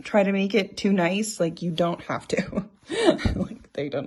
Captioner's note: chuckling